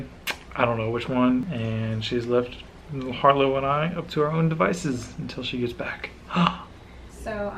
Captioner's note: gasp